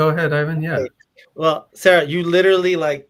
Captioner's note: speaking faintly